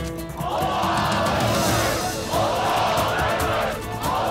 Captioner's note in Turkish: Hep bir ağızdan